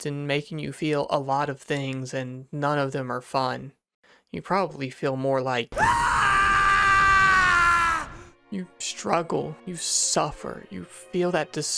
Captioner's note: 9S yelling